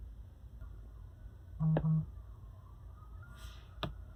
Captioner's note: cellphone vibration